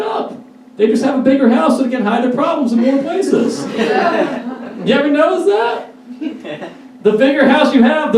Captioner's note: audience laughs uncomfortably